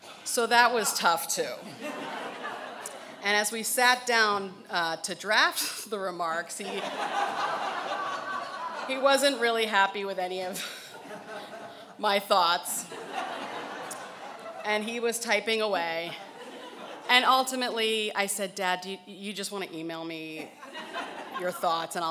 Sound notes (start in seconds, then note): 1.8 laughing; 12.7 laughing